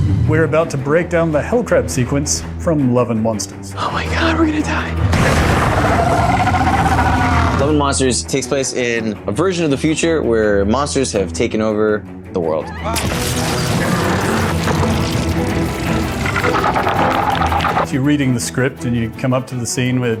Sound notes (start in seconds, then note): 5.2 crab bellowing; 13.1 electricity buzzing; 16.8 crab burbling